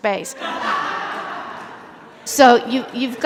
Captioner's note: laughter